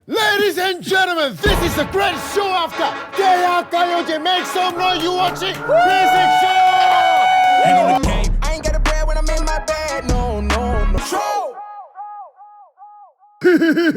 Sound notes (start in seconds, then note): 7.3 sound of cheering